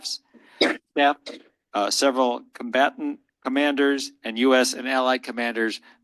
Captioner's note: cough